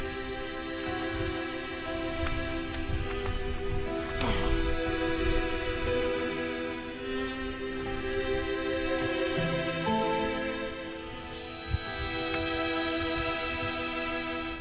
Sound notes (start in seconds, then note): 4.6 Asher groaning